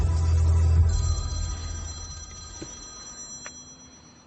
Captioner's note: phone ringing